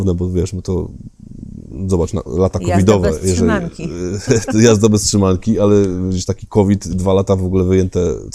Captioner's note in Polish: śmiech